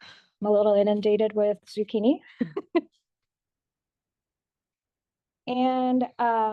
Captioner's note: laughs